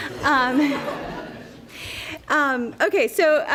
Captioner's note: laughter